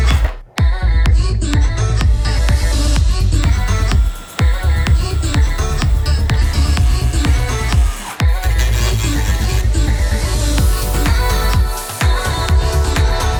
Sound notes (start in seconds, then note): 3.4 beeps